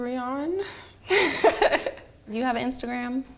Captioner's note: laughs